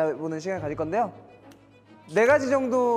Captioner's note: snap